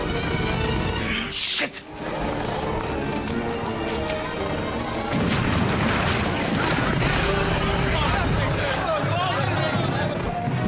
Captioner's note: shots and music